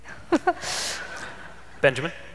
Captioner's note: laughter